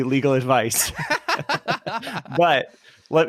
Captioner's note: laughing